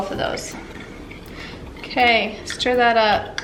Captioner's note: stirring